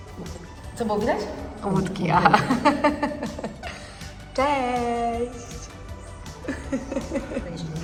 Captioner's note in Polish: śmiech